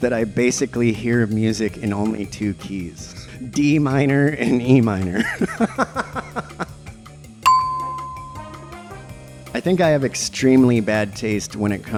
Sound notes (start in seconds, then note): 5.1 laughter; 7.4 ding!